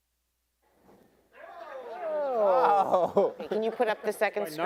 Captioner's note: attendees cheering